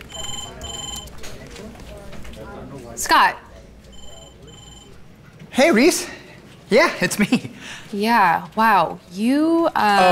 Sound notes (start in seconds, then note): 0.0 phone rings; 3.9 phone rings